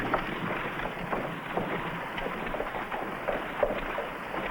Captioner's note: horse trotting